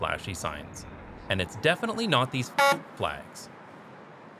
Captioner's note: honk